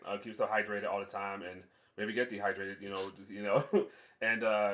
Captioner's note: laughs